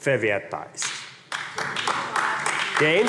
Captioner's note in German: Beifall AfD